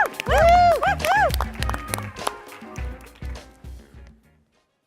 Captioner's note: applause